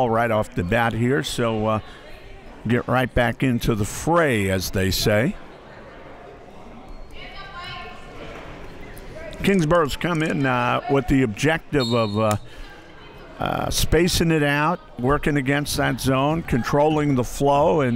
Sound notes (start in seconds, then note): 11.7 referee blows whistle